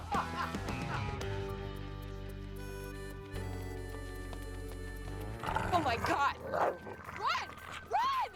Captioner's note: screaming